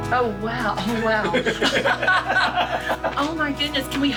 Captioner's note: both laughing